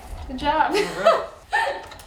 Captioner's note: laughs